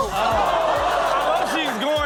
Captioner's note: crashes; everyone exclaims